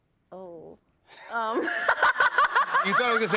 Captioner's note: laughs